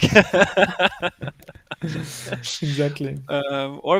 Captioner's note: laughing